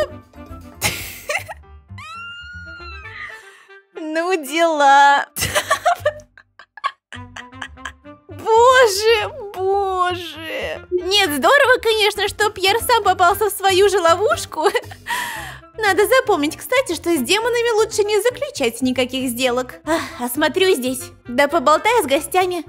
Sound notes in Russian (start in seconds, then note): 0.8 смех; 6.3 истерика